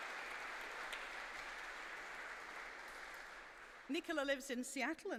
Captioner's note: applause